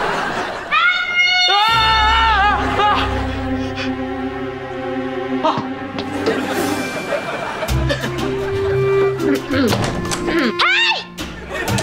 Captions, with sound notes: - Henry! - Ah! [clearing throat] Hey!